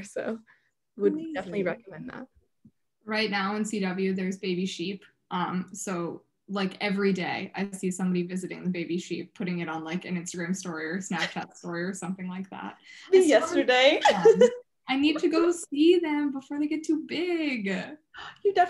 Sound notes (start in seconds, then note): 11.1 laughing; 13.9 laughs